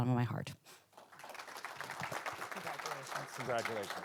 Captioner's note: audience applauding